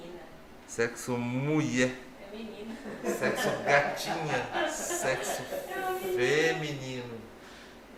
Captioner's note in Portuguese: risos